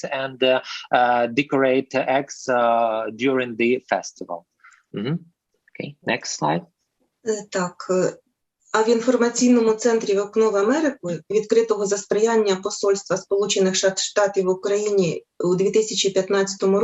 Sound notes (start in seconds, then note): 6.2 foreign Language